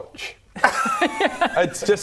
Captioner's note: low effort laughter